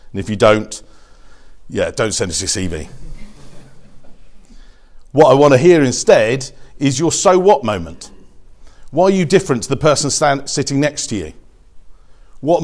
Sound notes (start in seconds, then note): 2.9 audience chuckles